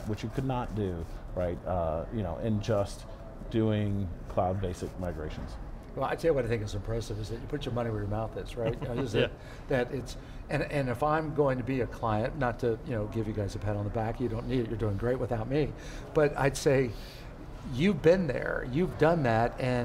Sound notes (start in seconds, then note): 8.6 laughs